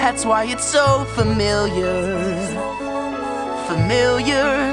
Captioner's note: Pebbles echo last words